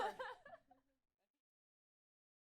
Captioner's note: laughing